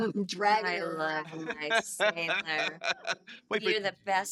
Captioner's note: laughing